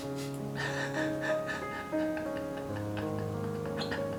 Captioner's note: laughs